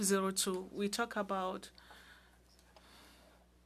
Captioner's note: speaking French